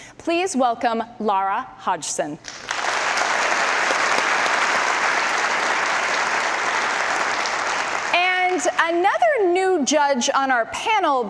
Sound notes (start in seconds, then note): 5.2 audience applause